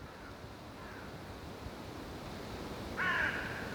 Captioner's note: wind and crows